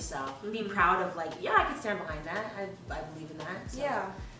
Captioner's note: none